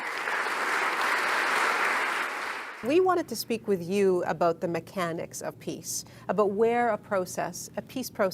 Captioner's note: applause